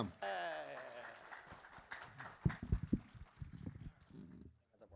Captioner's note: clapping